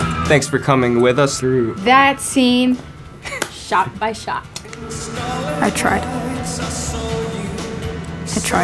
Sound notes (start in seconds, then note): 3.3 claps